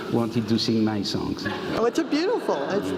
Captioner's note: laugh